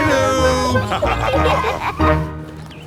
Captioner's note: laughter